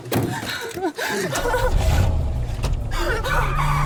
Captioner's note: gasping